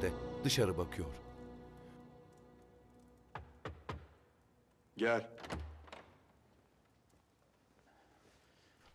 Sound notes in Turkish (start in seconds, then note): 3.3 Kapı tıklanma sesi; 5.2 Kapı açılma sesi